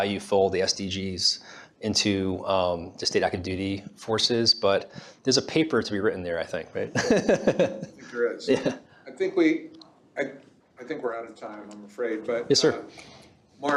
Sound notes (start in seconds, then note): 6.9 laughs